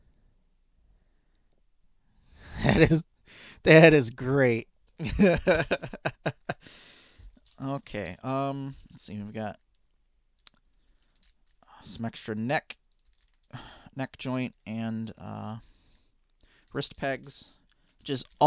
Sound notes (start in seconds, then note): 5.0 laughing